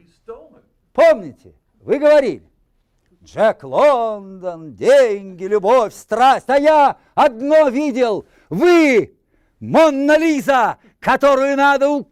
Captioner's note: reciting poem in Russian